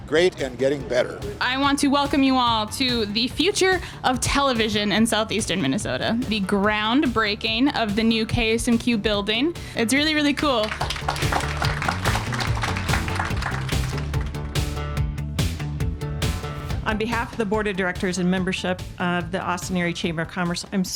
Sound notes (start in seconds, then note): 10.5 audience applauding; 14.4 upbeat music